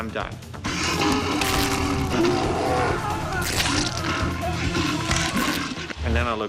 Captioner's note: bear growling; man yelling